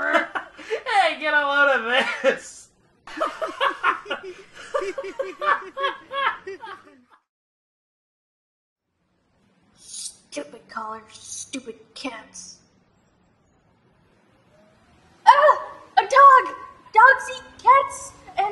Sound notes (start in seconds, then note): 0.0 laughing; 4.3 continues laughter